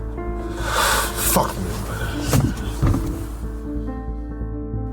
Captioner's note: exhales